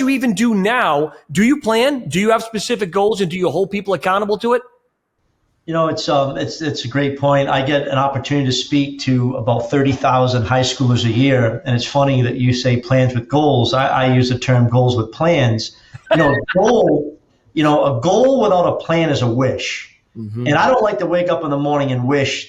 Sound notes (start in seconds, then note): 15.9 laughs